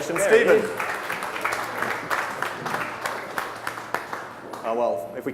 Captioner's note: audience applauding